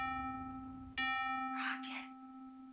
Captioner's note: ding